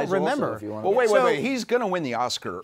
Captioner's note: none